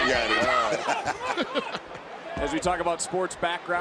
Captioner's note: laughing